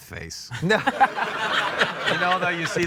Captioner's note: doug laughs